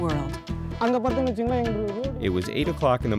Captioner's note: speaking native language